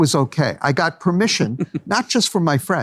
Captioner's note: laughs